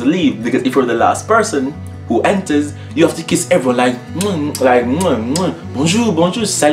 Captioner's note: kissing sound